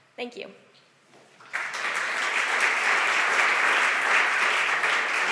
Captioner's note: audience applause